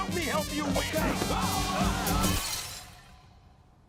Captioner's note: screaming